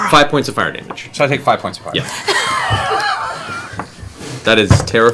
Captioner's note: whispering